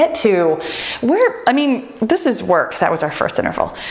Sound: timer beeps

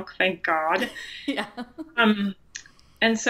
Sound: laughs

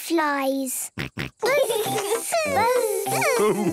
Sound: both buzzing

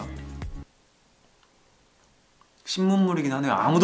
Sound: silence

